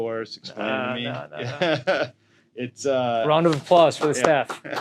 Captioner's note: both laugh